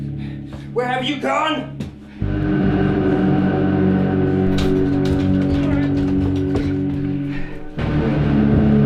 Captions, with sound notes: Where have you gone? [rattling]